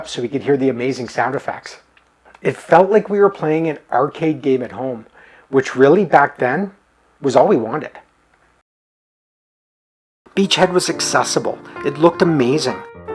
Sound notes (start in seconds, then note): none